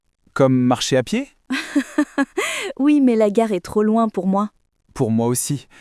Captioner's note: laughs